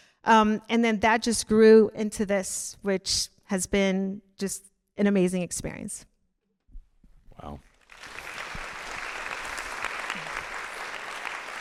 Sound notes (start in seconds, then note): 7.8 audience applauding